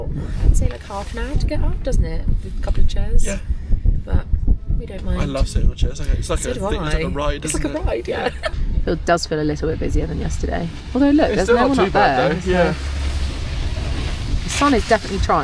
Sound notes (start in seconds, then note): 7.1 laughs